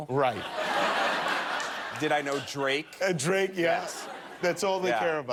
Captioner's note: laughter